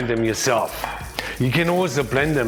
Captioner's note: pestle clanging